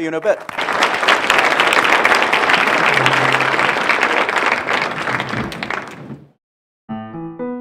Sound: audience applauds

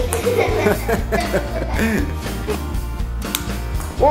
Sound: laughing

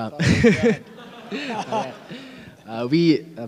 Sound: laughs; audience laughing

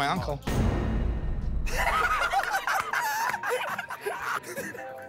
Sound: laughter

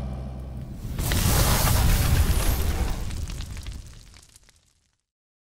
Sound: swooshing and crackling

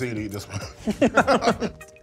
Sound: both laughing

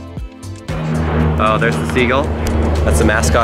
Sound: soft, upbeat music; airplane flying

